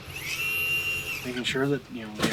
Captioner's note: hydraulics whirring